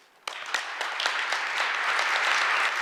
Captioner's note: applause